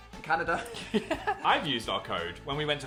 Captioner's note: people laughing